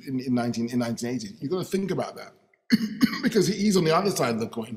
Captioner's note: coughing